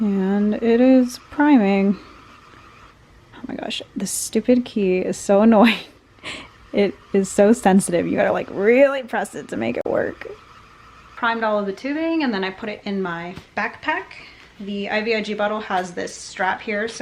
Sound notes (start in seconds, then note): 6.2 laughs